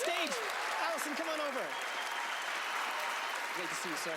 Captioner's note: audience clapping